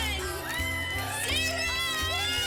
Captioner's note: off screen: woman cheers